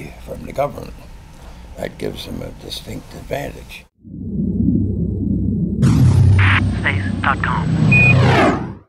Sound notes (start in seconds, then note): 4.0 sound effects